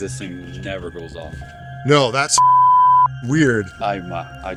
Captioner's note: beep